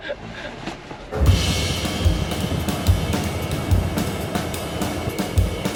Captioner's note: volcanic ash rush